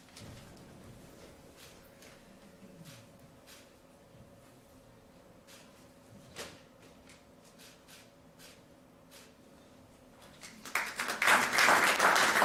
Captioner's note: applause